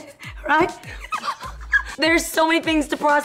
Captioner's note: laughs